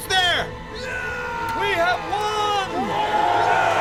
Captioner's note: man cheers; men cheer